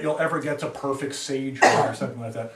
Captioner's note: student coughs